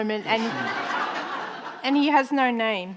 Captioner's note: audience laughing